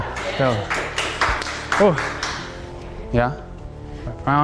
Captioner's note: cheering